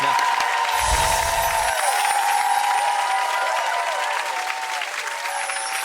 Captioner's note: audience applauding and cheering